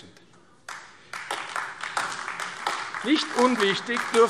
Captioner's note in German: Beifall AfD